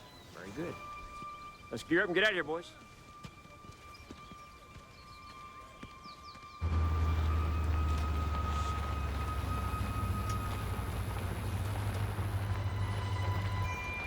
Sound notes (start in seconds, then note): 6.6 Humvee rumbling